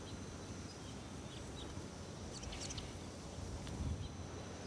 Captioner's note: birds singing